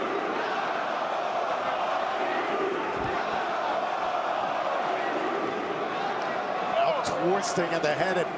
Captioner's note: crowd cheering